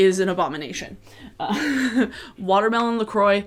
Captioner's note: laughs